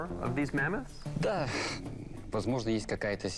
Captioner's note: speaking Russian